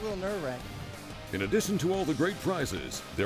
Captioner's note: voiceover